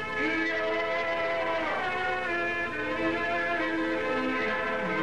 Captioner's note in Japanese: ターザンの復讐の叫び